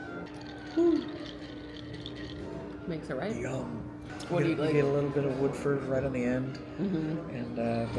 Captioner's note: woot